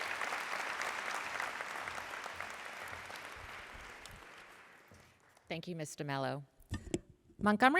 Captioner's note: applause